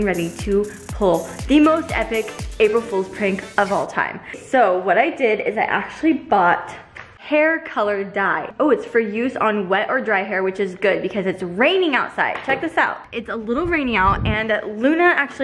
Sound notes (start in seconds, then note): none